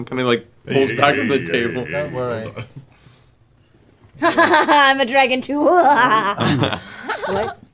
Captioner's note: evil laugh